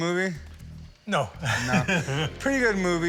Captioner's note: chuckles